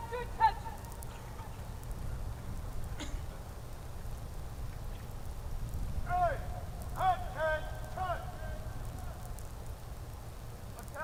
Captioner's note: shouted commands